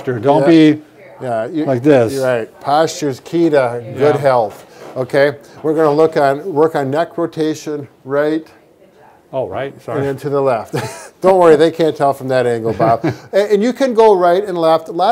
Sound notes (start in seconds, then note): 10.7 laughing; 12.6 laughing